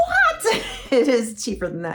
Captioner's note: chuckles